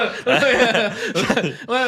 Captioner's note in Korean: 웃음